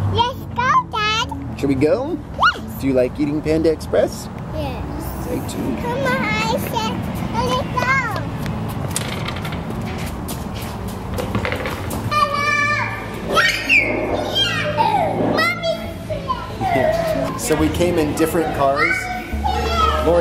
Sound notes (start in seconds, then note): 13.3 screaming; 16.3 laughing